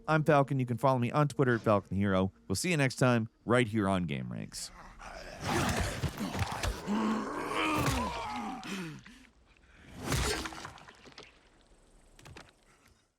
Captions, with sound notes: I'm Falcon, you can follow me on Twitter at "FalconTheHero," we'll see you next time right here on Gameranx. (zombies growling)